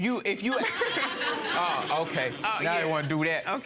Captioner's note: audience laughing